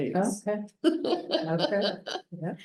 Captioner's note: laughs